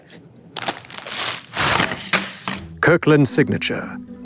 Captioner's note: plastic crinkling